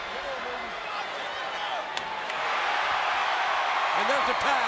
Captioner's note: audience cheering